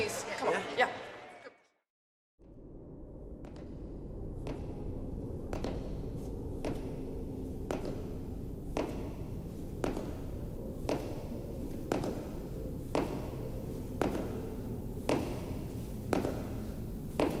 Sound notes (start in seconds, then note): 4.2 footsteps